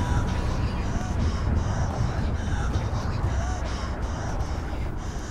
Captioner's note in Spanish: Respirando pesadamente